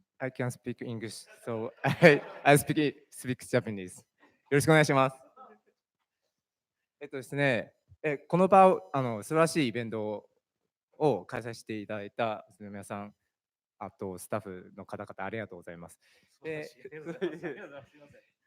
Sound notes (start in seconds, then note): 0.0 speaking japanese; 4.1 speaking japanese